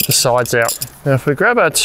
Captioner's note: metal clinging